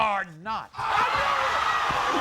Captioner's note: audience cheers